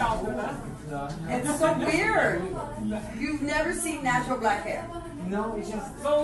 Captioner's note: lady voice